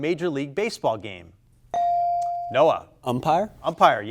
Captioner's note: buzzer chimes